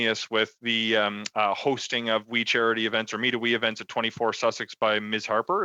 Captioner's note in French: voix de l'interprète